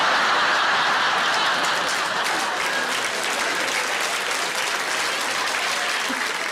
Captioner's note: audience applauding; audience laughing